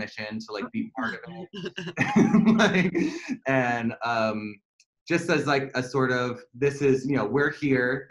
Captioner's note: laughter